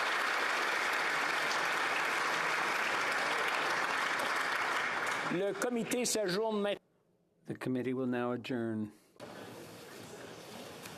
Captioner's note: applause